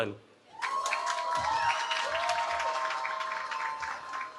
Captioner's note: cheering